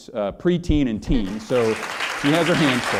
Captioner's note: applause